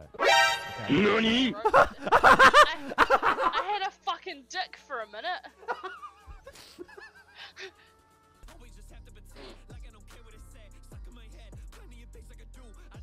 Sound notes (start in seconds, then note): 0.8 laughs at teammate having arrow in crotch